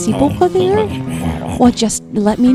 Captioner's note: makes weasel noises